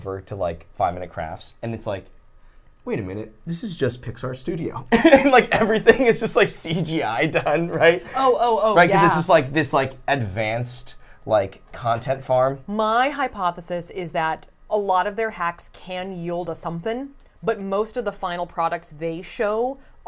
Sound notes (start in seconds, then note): 5.0 laughs